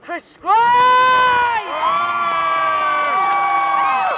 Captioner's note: cheers